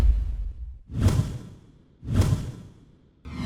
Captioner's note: thump